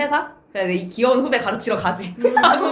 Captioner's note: laughs